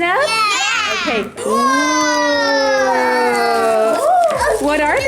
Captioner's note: all exclaiming